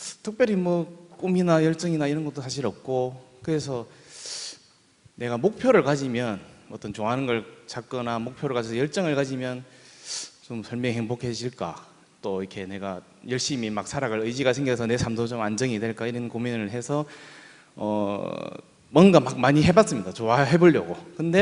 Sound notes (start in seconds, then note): none